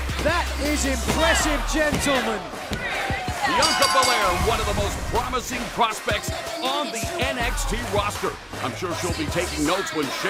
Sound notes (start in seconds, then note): 3.5 bell ringing